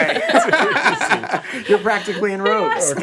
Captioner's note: all laugh